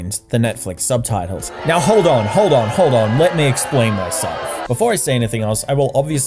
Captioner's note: intense booing